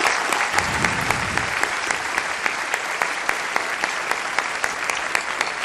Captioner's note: applause